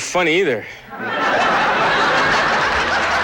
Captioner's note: laughter and applause